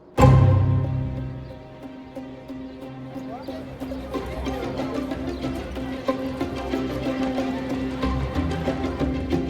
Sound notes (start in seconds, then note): 0.3 lively music; 3.8 people chattering